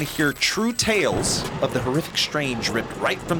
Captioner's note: thunder crashes